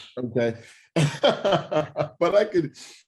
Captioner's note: laughing